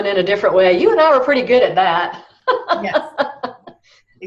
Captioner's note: laughs